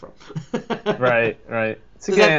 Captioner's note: laughs